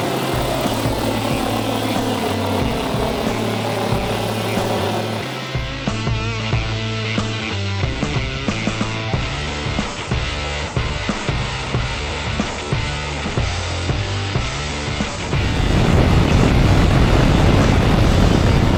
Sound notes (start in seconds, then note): 0.0 upbeat music; 7.1 motors revving; 7.1 upbeat music